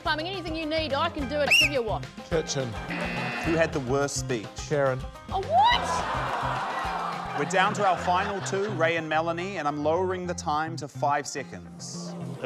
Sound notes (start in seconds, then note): 1.4 blows whistle; 2.9 buzz!; 5.8 laughter